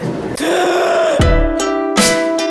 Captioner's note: deep inhale; thumping beat